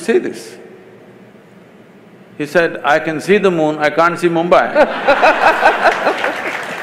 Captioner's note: laughter/Applause